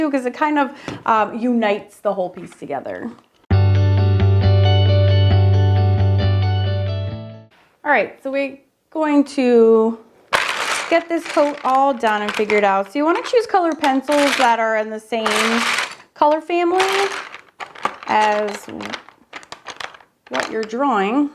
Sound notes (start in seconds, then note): 3.6 gentle music; 10.3 pencils clacking